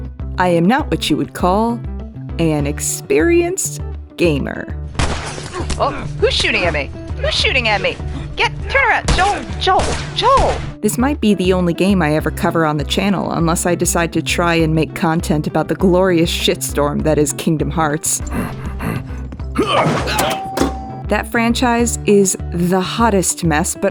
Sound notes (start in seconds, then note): 18.2 Sully panting; 20.2 ding